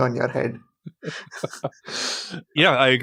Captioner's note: laughs